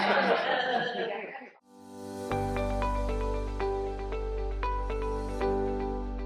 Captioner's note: laughs; outro jingle